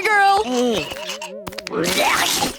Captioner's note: vomiting